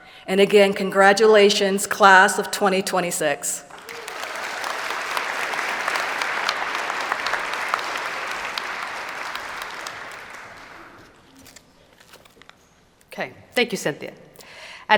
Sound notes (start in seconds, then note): 3.6 applause